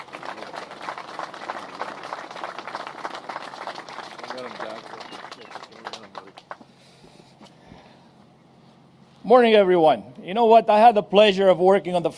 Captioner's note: applause